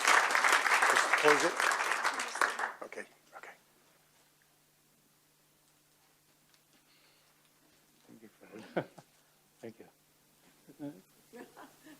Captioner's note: applause